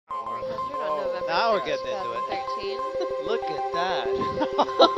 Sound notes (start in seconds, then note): 0.1 beeping sound